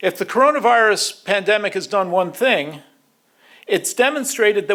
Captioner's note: none